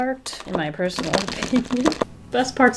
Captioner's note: laughs